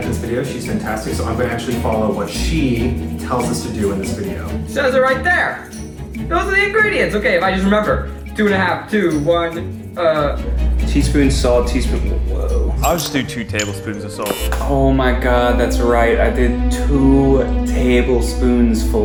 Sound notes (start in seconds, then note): 14.2 buzzer